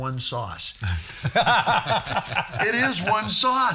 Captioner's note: all laughing